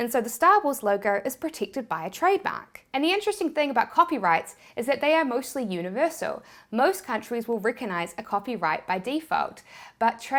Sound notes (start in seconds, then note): none